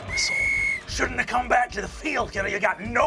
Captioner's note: sound of whistle blowing; deep voice